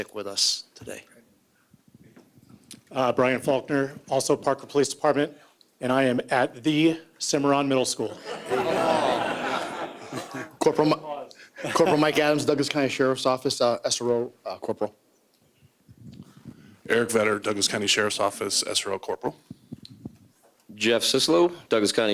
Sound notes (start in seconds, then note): 11.6 laughter